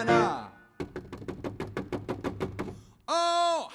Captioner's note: hand knocking